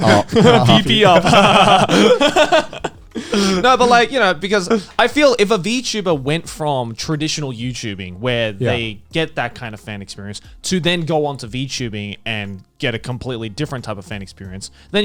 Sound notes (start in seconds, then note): 1.9 Garnt laughing